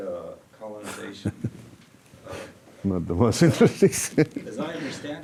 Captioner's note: laughing